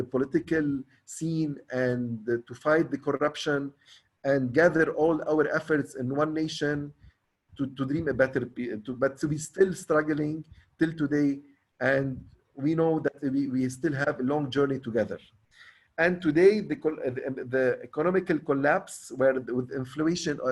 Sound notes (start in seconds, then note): 9.7 stammers